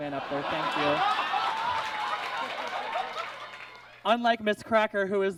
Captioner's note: audience laughs